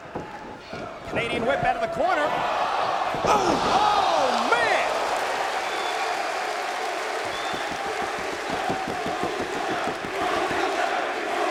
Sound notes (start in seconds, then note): 4.1 applause